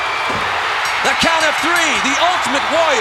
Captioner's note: audience cheering; bell ringing